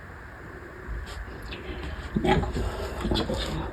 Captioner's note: whispering/chuntering/nonsense